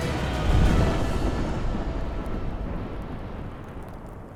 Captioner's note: intense music; explosion rumbles